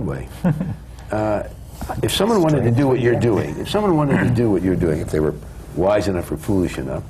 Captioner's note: laughs